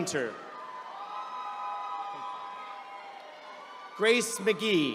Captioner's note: attendees cheering